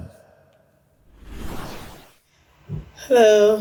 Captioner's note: whooshing sound effect